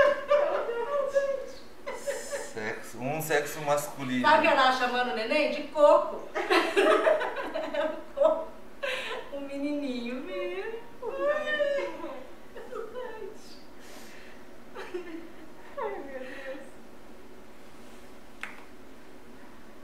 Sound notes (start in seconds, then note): 0.0 laughter; 6.3 laughter; 11.1 laughs